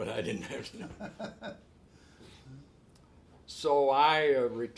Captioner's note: laughs